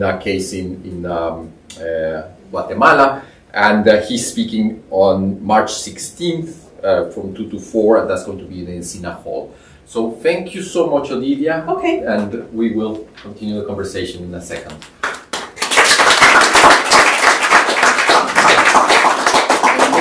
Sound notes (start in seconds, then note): 14.6 applause